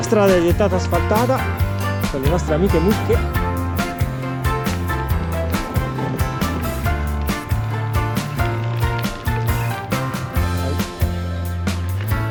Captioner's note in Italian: Applauso